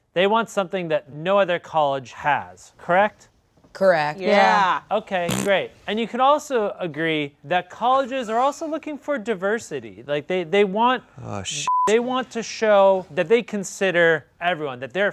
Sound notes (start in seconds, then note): 11.7 beep